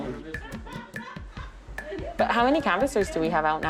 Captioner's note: female laughing